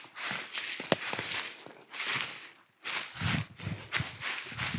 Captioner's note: leaves crunching